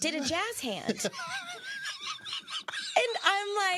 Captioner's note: laughing